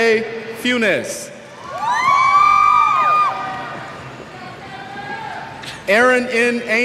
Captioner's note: cheers